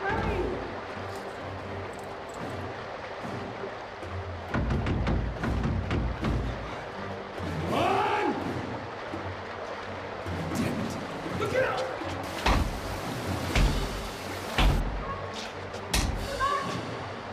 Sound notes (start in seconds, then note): 1.5 lively music; 4.5 Jess banging; 12.5 rock banging